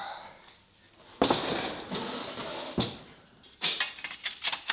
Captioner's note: wood thuds